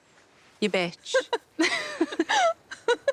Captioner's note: both laugh